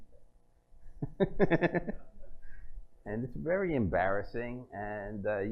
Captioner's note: laughs